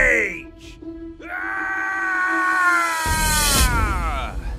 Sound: yells

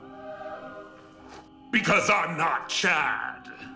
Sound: demonic voice

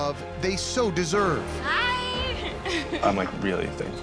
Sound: laughs

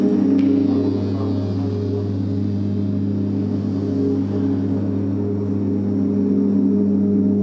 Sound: strange metallic humming

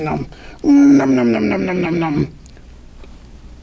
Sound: nom-nom-nom-nom

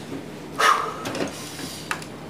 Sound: exhales

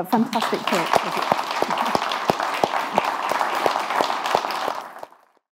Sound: speaking foreign language; audience applauding

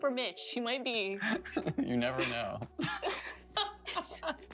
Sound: laughter

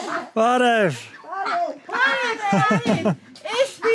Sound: in Armenian; speaking Armenian

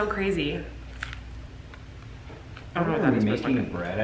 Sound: taco crunching

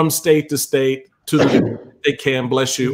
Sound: mr. capeharts sneezes

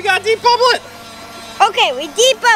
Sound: bubble wand buzzing

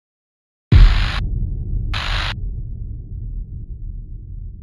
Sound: static crackling

